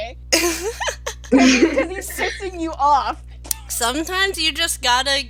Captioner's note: laughter